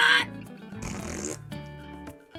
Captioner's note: fart